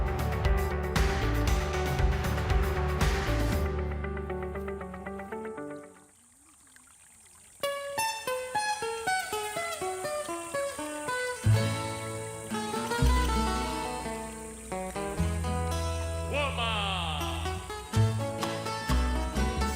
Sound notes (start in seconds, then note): 0.0 upbeat music; 5.6 water flowing; 8.0 gentle music; 12.6 upbeat music